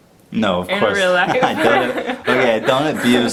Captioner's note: laughter